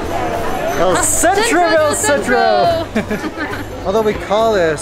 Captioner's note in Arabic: يضحك